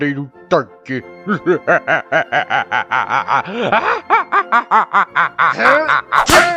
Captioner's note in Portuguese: Risada insana